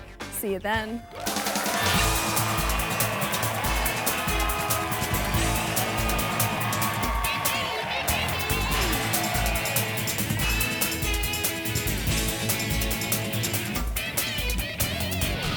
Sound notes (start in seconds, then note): 1.6 audience applauding; 1.6 upbeat pulsating music; 11.3 upbeat pulsating music continues